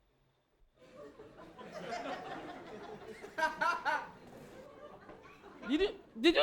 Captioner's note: audience laughing